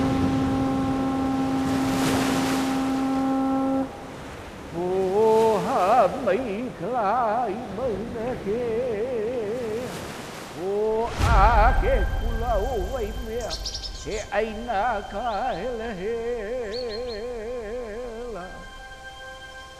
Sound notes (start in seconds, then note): 3.7 conch shell blowing